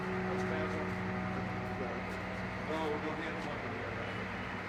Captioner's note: men chatter